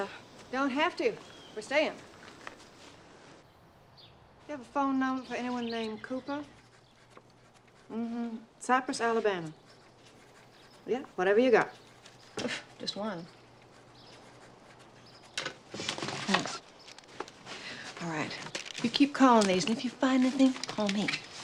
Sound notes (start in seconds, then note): 12.8 door closing